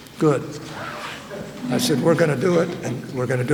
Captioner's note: laughter